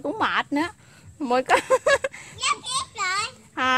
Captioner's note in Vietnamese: Tiếng cười hihihi